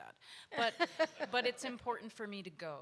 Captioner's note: audience laughs